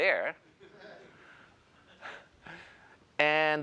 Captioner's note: laughter